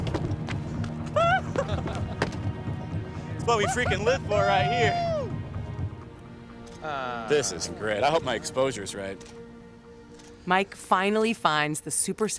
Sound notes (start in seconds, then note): 1.1 people laughing; 1.7 man cheers